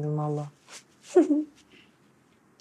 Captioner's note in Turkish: Gülme sesi